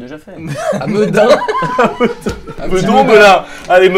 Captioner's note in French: Rires